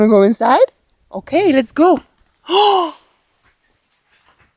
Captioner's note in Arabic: شهقات